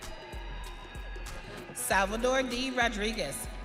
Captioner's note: audience cheering